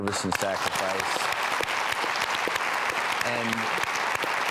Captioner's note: audience clapping